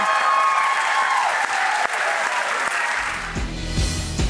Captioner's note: applause